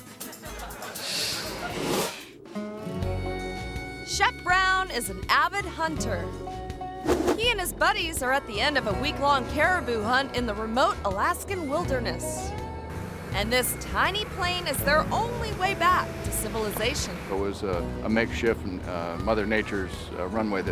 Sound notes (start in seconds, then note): 0.2 audience laughing; 1.1 graphic whooshes; 2.7 upbeat folk music; 7.0 screen whooshes